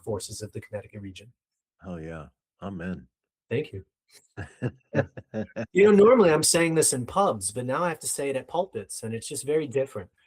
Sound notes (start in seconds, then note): 4.3 laughing